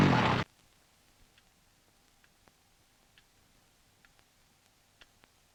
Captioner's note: clock ticking